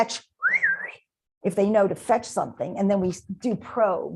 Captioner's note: whistle